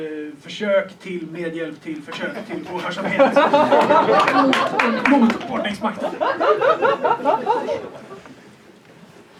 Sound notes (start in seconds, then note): 2.2 audience laughs